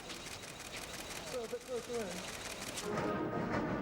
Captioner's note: cameras clicking